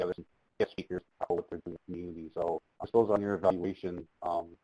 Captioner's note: feedback drowning out speech